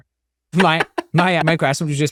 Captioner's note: laughing